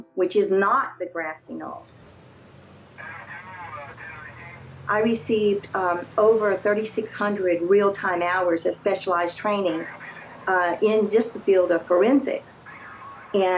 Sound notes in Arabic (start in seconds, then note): 3.0 ضوضاء الراديو تطغى على المحادثة